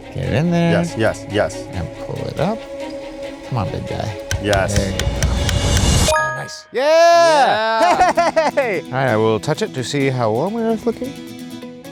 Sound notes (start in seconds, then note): 6.7 all cheering; 7.9 upbeat folk music